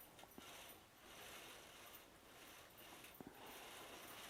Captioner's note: loom moving